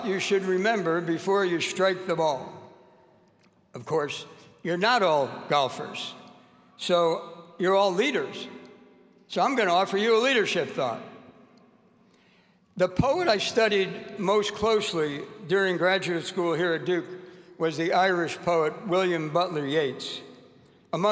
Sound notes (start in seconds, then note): none